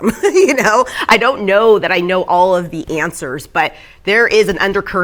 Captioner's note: chuckling